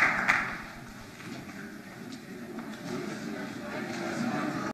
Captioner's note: audience conversing